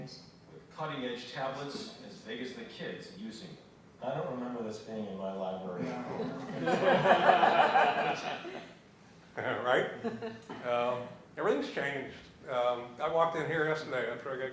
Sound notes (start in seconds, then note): 8.1 laughter